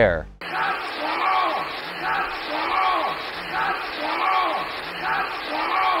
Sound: yell vocalization in loop

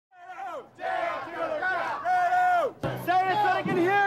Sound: crowd chanting

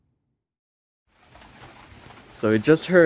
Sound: rain falling

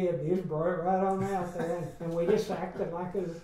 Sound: laughs

